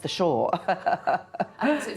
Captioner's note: chuckles